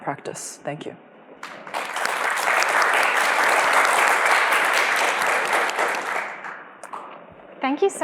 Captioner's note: applause